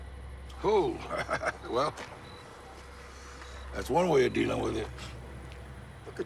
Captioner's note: laughs